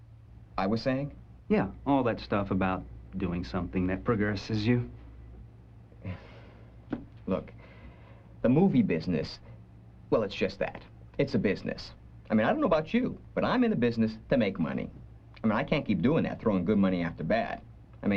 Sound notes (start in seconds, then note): 6.0 sighs